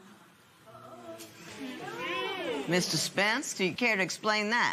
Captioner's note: audience murmurs